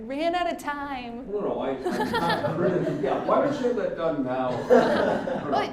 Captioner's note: all laughing